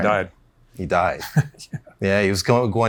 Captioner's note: chuckles